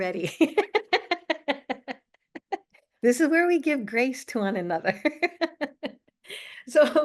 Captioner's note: laughs